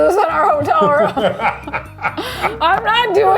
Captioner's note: both laughing